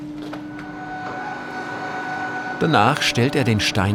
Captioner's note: high-pitched machine whine